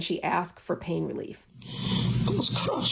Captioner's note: soundbite of archived recording